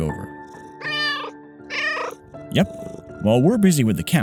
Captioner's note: meow